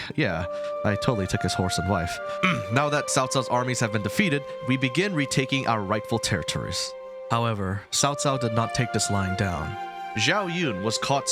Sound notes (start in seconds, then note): 2.4 clears throat